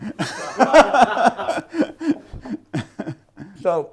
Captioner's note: laughing